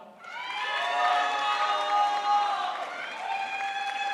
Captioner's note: crowd applauds